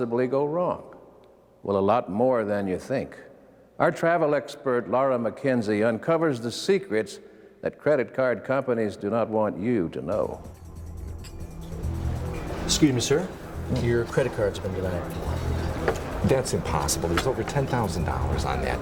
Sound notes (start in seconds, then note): 11.8 upbeat music; 11.8 wine glass clicking